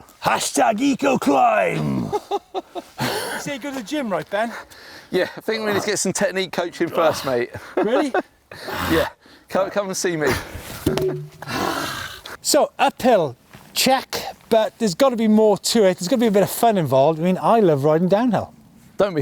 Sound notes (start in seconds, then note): 1.9 laughing; 7.3 laughs; 10.7 log clatters; 11.3 sighs